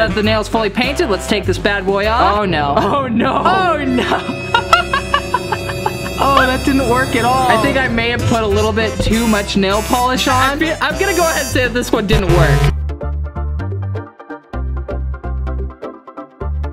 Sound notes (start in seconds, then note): 3.9 laughter; 12.1 electronic music